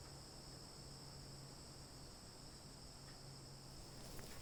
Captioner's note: chirping insects